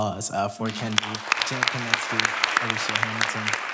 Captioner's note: applause